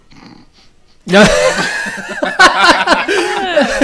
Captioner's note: laughing